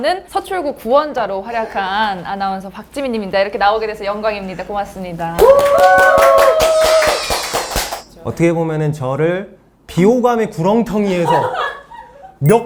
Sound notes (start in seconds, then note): 5.4 the most enthusiastic cheers since the start of the show